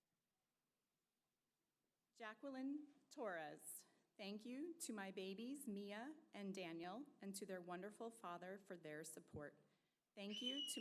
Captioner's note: applause